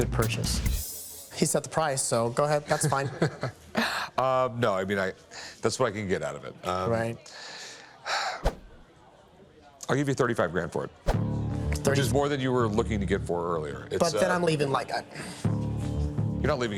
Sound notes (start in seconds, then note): 7.4 sighs